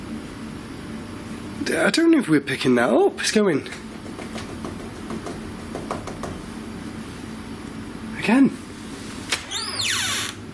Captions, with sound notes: I don't know if we're picking that up. It's going. (rapid tapping) Again.